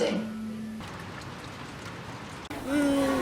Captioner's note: rain noises